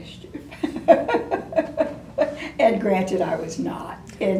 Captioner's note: laughs